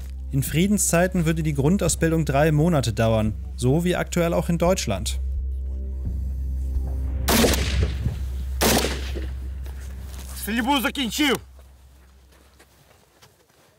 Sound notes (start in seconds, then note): 5.0 dark music; 7.0 gunshots